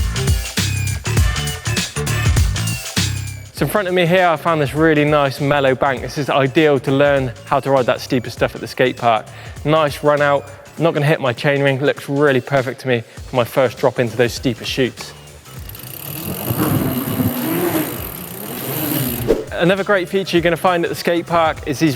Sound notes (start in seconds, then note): 0.3 upbeat music; 15.4 upbeat music; 15.5 bike clicks